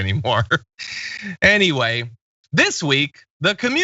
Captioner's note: laugh